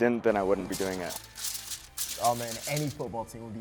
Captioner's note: paper rustles